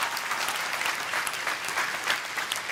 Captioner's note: cheers and applause